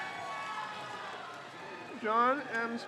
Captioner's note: crowd cheers